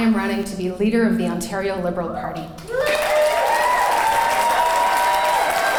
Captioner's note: cheering and clapping